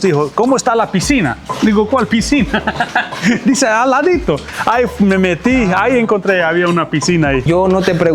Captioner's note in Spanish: risas